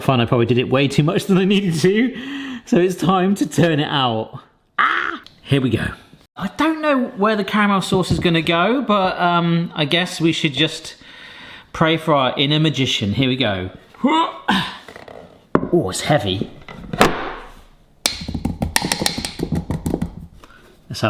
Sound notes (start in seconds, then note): 14.8 grunts; 18.0 fingers drumming; 18.1 board clatters